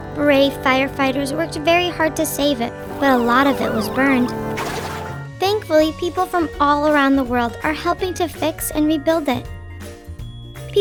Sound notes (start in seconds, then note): 2.8 sirens blaring; 9.7 happy music